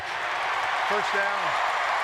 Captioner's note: cheering